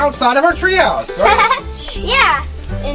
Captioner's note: giggles